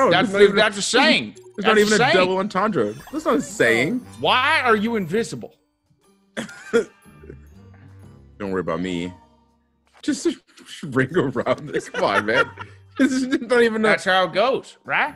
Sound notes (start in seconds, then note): 6.4 laugh